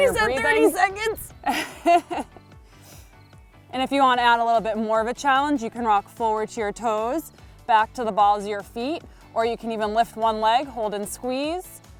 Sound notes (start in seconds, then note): 0.0 laughing